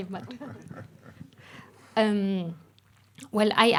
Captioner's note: chuckling